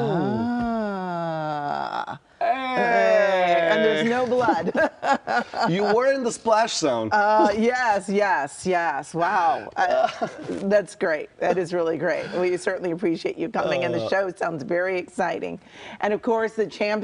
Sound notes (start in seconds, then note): 9.9 laughter